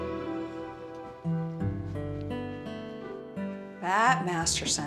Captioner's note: footsteps